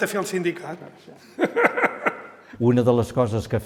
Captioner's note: laughs